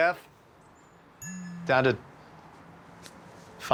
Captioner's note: Ichabod's phone buzzes